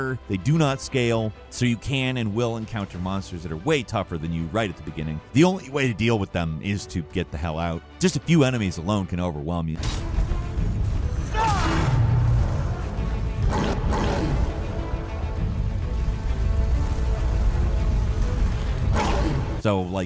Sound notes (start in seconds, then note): 10.0 intense dramatic music; 11.3 blow slams; 11.4 character yelling; 13.4 monster growling; 19.0 monster growling